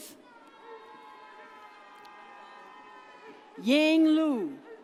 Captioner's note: audience cheers